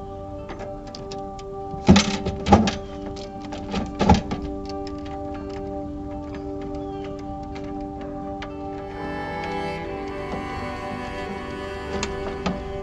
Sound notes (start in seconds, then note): 1.7 ambient music; 1.8 banging sound; 4.2 ambient music